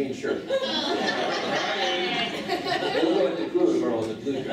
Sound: laughing

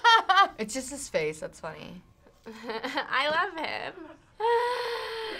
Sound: laughs; chuckles

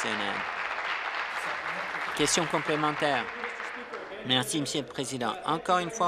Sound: applause

